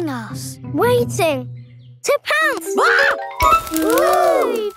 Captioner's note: screams